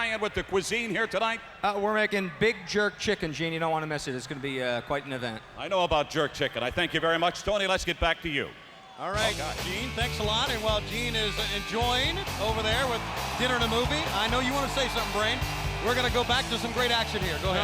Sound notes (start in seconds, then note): 13.6 lively music; 16.3 crowd cheering